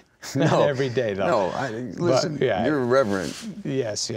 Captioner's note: laughing